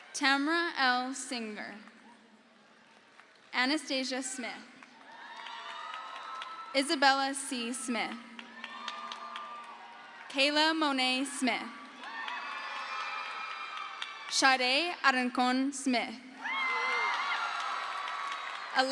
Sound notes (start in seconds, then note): 4.8 crowd cheers; 11.7 crowd cheers; 16.4 crowd cheers